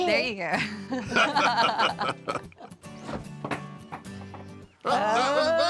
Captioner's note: everyone laughs